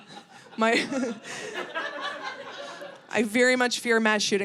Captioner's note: audience laughing